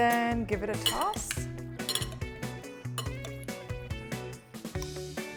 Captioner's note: spoon clinks